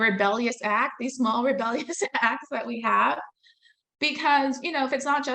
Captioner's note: laughing